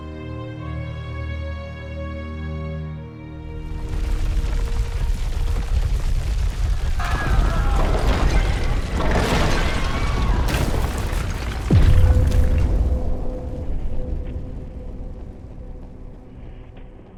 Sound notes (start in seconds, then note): 0.2 dramatic music ends; 4.4 ground rumbling; 8.3 people screaming; 13.2 eerie music